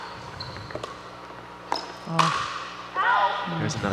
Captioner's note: ball bouncing